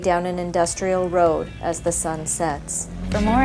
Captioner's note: gentle music; engine hums